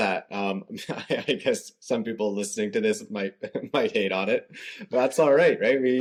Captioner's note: laughter